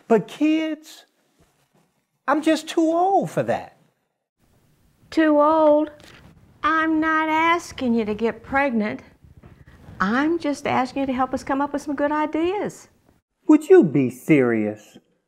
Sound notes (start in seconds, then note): none